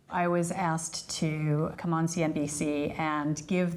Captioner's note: none